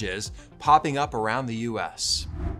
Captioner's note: airy electronic music; graphics whooshing